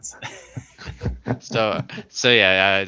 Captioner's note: laughter